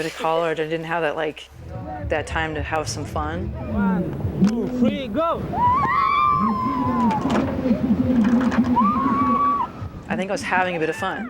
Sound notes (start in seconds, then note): 5.6 Lisa screaming